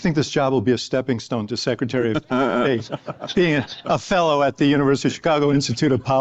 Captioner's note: laughter